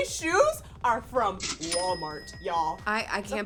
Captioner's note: cash register rings